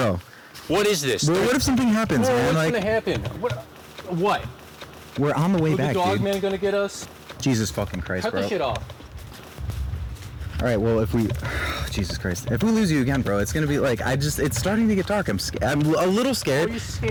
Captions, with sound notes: -Bro. -What is this? What if something happens? -Nothing is gonna happen. What? -We're on the way back, dude. -Is the Dogman gonna get us? -Jesus fucking Christ. Cut this shit off. All right, well, if we... [sighs] Jesus Christ, if we lose you again, bro, it's gonna be, just. It's starting to get dark. I'm a little scared.